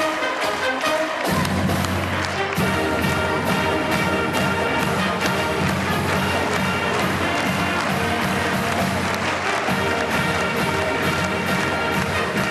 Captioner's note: cheers and applause